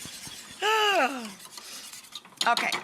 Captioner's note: sighs